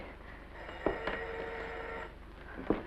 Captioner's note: phone rings; footsteps scrambling